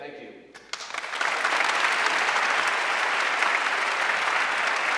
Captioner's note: audience clapping